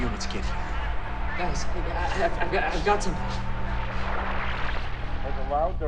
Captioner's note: radio receiving signal